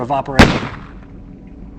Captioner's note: bang